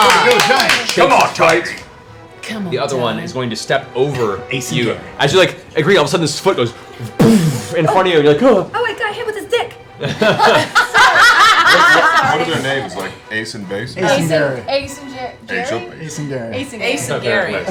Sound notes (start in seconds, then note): 6.9 wham; 8.5 nervous sound; 10.0 laughter